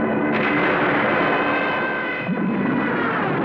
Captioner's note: planes screaming; gunshots